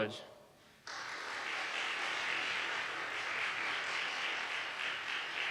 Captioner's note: audience applauding